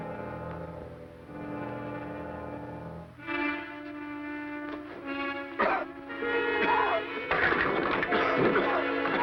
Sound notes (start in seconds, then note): 5.5 coughing